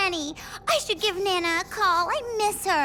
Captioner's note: beeping